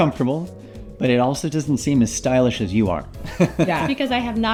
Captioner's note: laughs